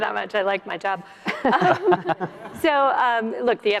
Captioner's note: laughter